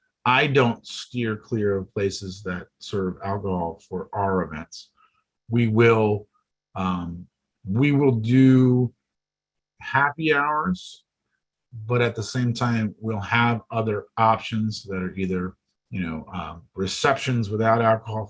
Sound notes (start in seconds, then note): none